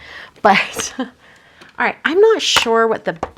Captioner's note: laughs